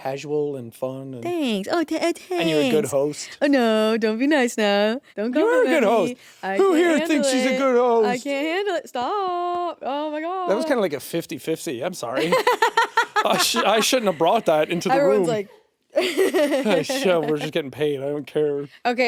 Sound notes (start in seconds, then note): 12.2 laughing; 16.0 chuckling